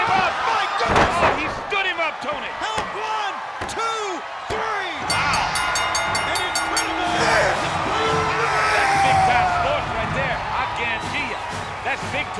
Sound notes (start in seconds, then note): 5.0 bell dings; 8.7 Goldberg screams